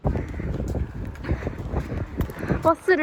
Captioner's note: heaving breathing